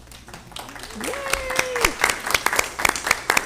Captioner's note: all clapping